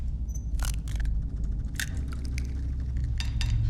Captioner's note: shell cracking